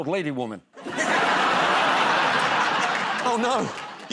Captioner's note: laughter